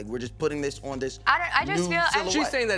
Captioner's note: none